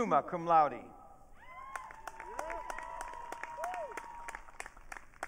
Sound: audience cheering

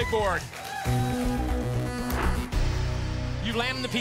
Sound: audience applause

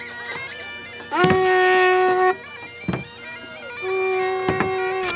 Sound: bagpipes playing; two horn blasts; sound of walking sticks striking wooden floor

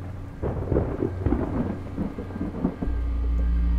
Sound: thunder rumbles

